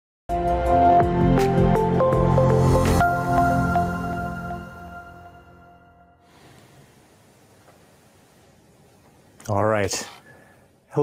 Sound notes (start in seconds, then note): 0.4 gentle music; 6.8 air whooshing